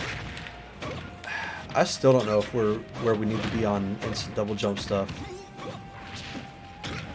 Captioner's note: sigh